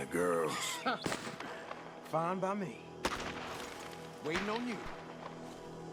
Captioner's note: laughs